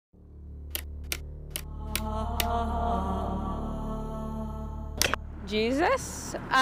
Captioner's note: mysterious music; text tapping